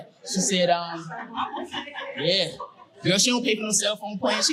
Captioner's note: woman in the audience mumbling